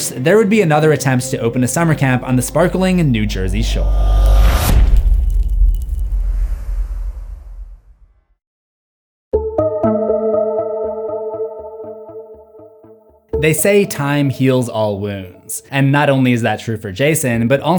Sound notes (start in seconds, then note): 3.6 impact